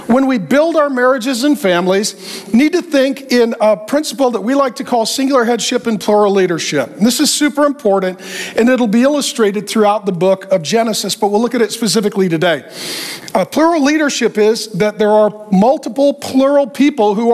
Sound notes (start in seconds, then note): none